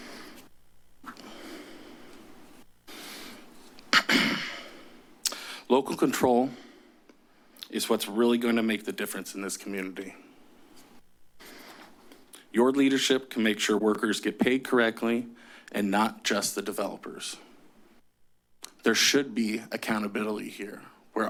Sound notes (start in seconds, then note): 2.0 pause; 3.9 clears throat